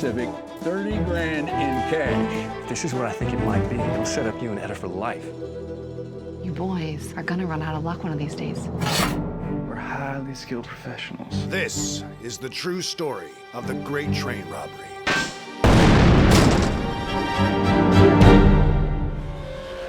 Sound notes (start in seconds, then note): 8.7 slides open; 15.6 explosion